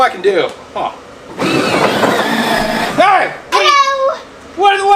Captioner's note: sleigh screeching